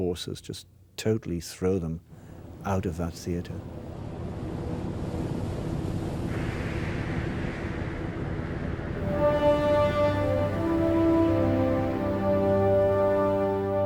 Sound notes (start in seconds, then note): 5.1 wind howling; 9.4 dramatic music